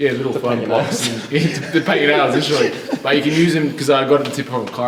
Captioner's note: laughs